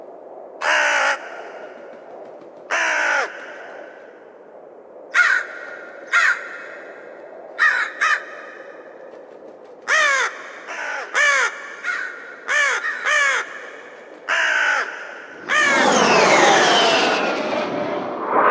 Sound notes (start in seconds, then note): 9.9 crows cawing; 15.3 planes buzzing